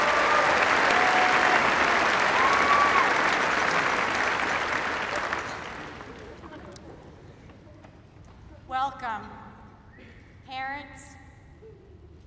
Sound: applause

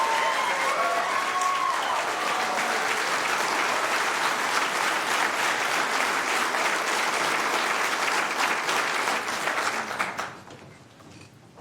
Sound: cheers and applause

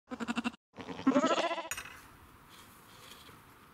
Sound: sheep bleating

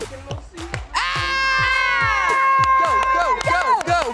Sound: cheering; screams

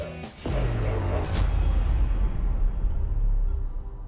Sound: metal echoes

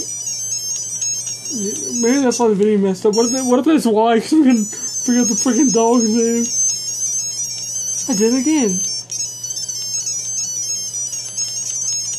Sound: laughs

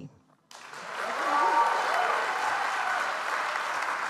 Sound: audience applauds

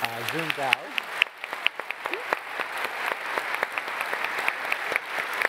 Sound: applause

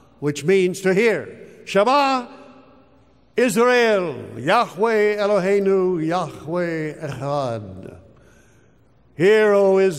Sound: speaks hebrew

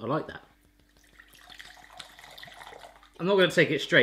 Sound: pouring vodka

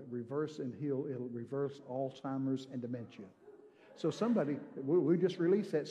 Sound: congregation cheering

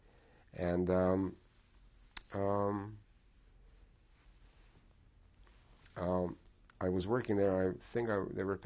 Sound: pauses for 6 seconds

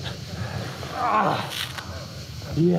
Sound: groans

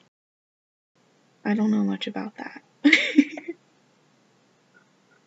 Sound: laughs

